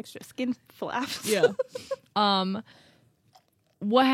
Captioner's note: laughs